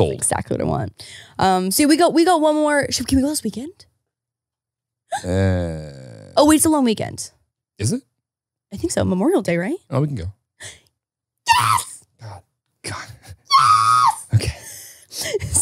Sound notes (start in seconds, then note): 11.4 screaming